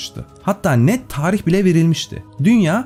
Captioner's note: shuddering breath